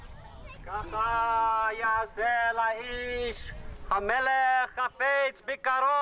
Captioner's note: chanting in foreign language